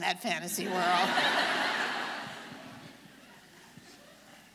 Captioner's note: audience laughing